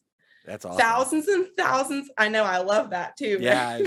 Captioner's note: laughs